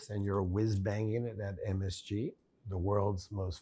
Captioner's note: none